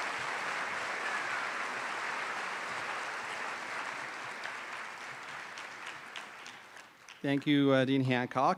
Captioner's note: applause